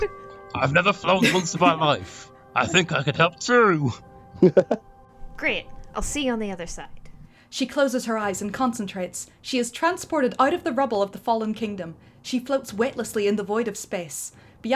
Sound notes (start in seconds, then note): 0.0 laughter; 4.4 chuckles